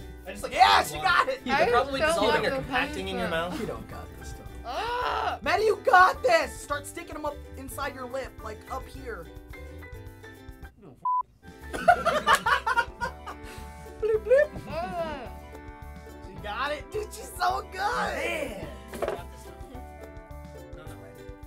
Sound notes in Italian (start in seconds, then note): 4.6 geme; 11.0 bip; 13.7 risata; 14.2 borbottando